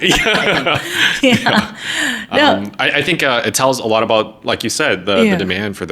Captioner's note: laughing